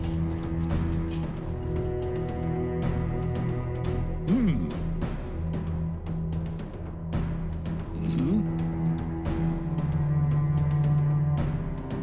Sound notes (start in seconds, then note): 2.4 suspenseful music; 4.3 clears throat; 5.0 suspenseful music